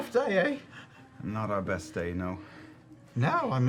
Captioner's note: light German accent